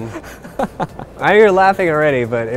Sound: laughs

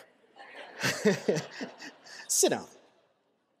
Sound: laughter

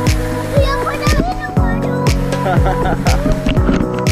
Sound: baby talk

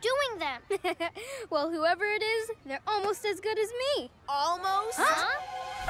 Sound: chuckles

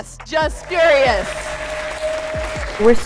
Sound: crowd cheering

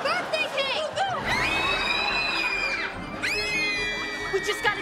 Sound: screaming

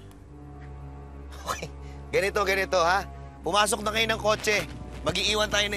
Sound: chuckles

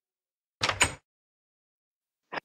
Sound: minecraft door opening sound

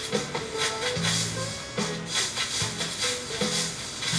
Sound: leaves rustling

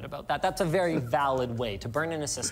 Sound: laughter

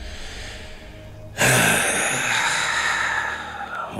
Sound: sighing

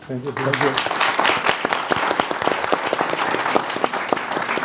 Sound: applause

